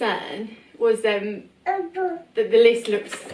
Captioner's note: baby babbles